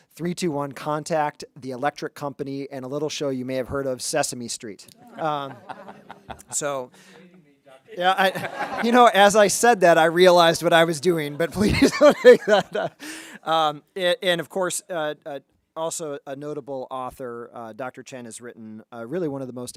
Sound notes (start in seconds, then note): 5.0 people giggling; 7.9 people laughing; 11.3 chuckles